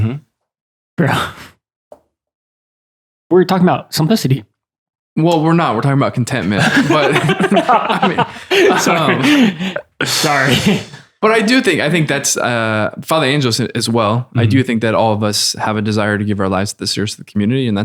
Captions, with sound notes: - Mm-hmm. - Bro. We're talking about simplicity. - Well we're not. We're talking about contentment, but (laughter) - Sorry. - But I do think, I think that's, Father Angelus said as well, I do think that all of us have a desire to give our lives to the service of the community.